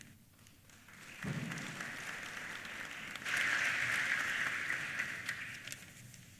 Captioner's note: applause